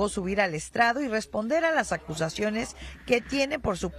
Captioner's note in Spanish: HABLAN EN INGLéS